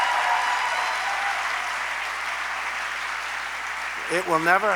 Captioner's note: applause